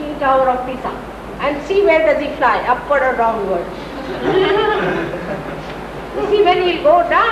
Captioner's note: laughter